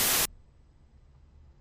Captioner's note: white noise